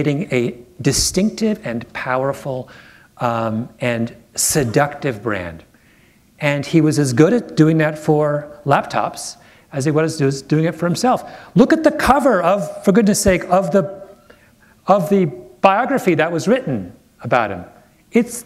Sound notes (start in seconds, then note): none